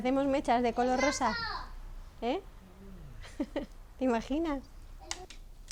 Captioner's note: laughing